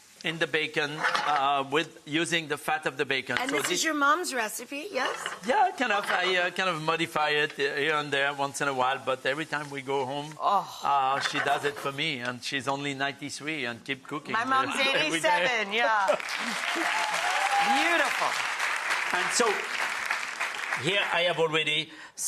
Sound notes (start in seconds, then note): 14.9 laughs; 16.0 audience cheers and applauds